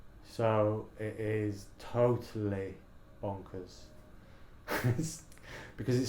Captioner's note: laughs